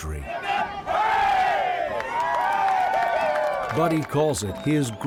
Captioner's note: crowd cheering